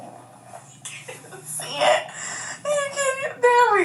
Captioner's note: laughs